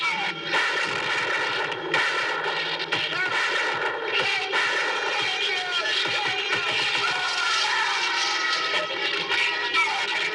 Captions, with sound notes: [GUNSHOTS] Help! Somebody help me! Help me! [SCREAMS]